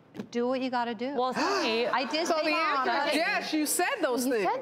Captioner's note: gasps